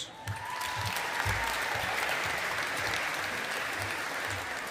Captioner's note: audience applauding